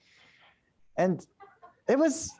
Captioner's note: laughter